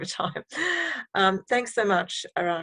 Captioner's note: chuckling